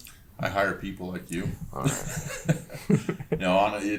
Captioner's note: laughs